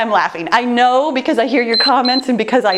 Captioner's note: timer beeps